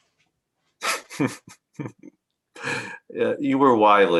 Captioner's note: laughs